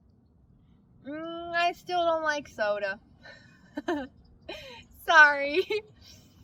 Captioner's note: laughs